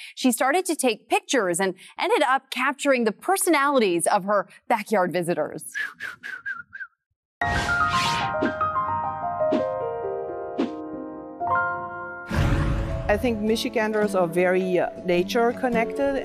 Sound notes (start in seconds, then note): 5.7 whistles like a bird; 7.5 relaxed music